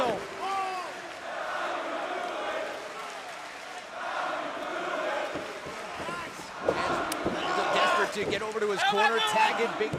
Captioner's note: crowd cheering